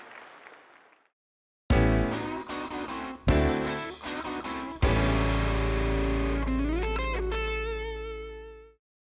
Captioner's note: appplause